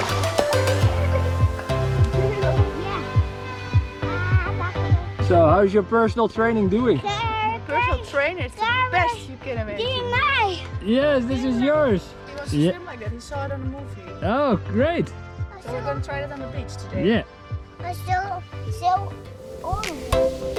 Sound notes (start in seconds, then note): 0.0 upbeat music; 7.2 toddler babbling; 20.3 upbeat music